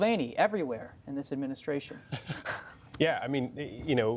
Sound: laughter

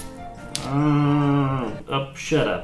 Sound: mooing

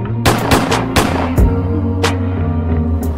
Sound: gun firing

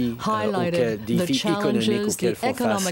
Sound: speaking French

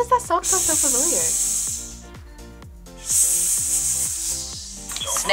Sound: React hisses

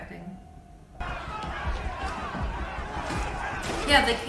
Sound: crowd loudly chattering and shouting

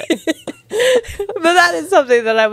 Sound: panel laughing

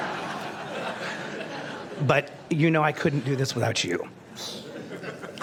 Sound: laughter

